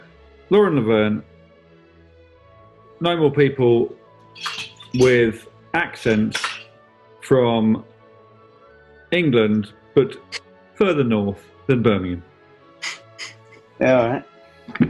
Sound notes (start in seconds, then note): 4.5 clattering; 12.8 sniggers